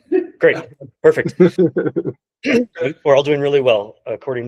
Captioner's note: laughing; colleagues laughing